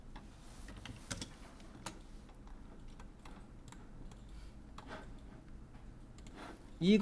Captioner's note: silence